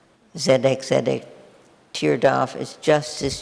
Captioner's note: speaking in foreign language